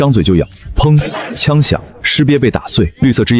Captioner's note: bang!